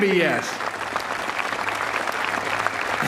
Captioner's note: applause